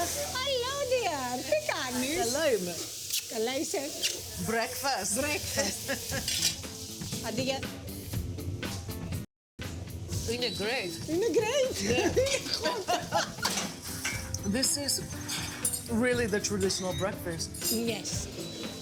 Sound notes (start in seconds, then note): 1.2 speaking in greek; 7.4 speaking in greek; 11.2 laughs